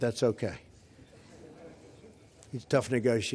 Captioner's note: laughter